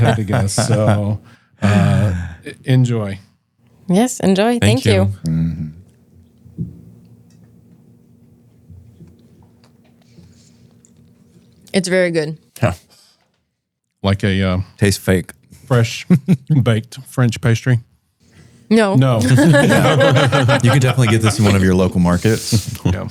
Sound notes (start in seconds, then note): 19.2 laughs